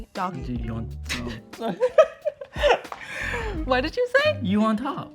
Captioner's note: both laugh